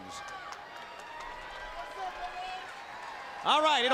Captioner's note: crowd cheering